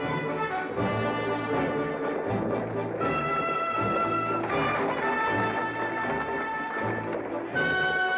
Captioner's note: buggy rattling; triumphant music